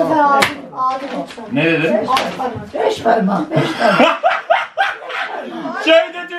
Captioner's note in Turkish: kahkaha sesi̇